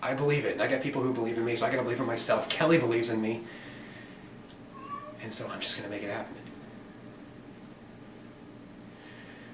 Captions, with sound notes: I believe it. And I got people who believe in me, so I gotta believe in myself. Kelly believes in me. -(Havok meowing) -And so I'm just gonna make it happen.